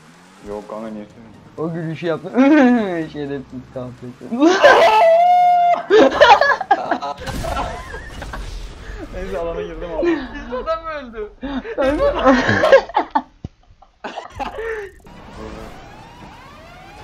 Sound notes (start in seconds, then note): 6.8 laughs; 13.1 laughs